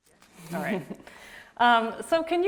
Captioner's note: laughs